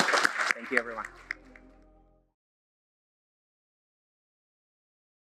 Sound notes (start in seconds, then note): 2.5 audience applauding